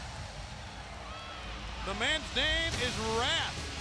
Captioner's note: crowd chatter